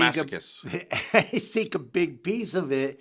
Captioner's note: laughing